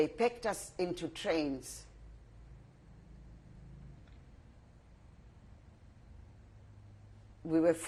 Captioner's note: pauses for 6 seconds